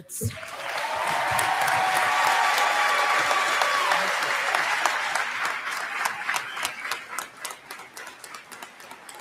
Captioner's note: cheers and applause